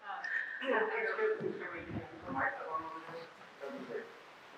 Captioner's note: woman mumbling